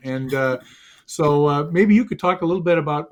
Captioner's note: all chuckle